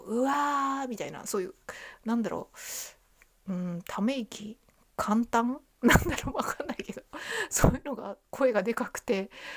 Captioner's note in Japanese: 笑い